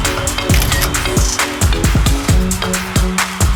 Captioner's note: camera snapping